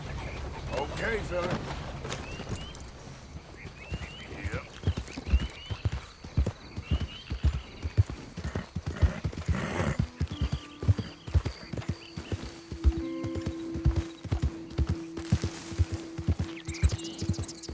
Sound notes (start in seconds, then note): none